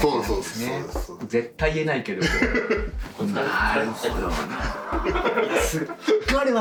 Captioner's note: laughs